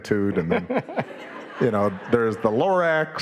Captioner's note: audience laughing